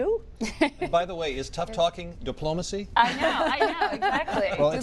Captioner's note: laughter